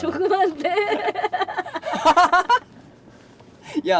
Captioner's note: laughter